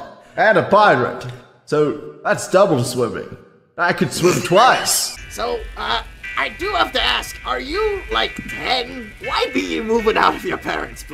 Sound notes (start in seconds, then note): 4.5 cast wheezes